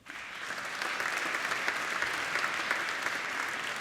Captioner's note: applauding